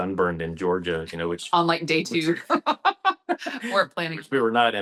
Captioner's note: laughs